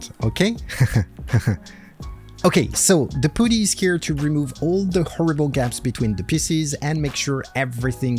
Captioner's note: laugh